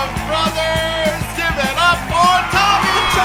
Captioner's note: applause, raucous cheers; rapturous cheers